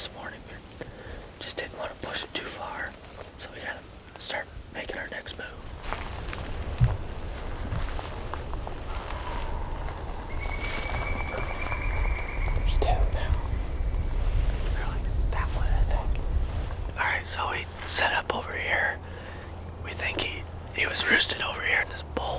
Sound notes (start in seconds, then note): 5.6 walking